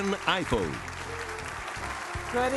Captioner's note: applause